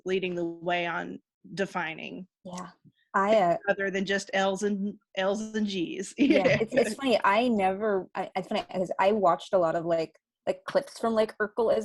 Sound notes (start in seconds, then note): 6.2 chuckling; 6.3 everyone laughing